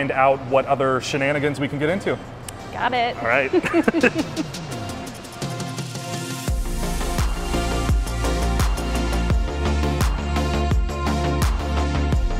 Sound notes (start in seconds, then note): 3.3 laughing; 4.7 bright upbeat music continues